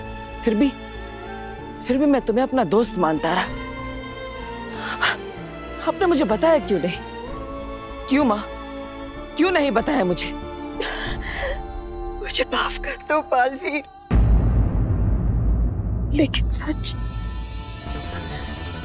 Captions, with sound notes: and I just considered you as my friend. [gasps] Why didn't you tell me? Mom, why didn't you tell me? Forgive me, Baalveer. But the truth.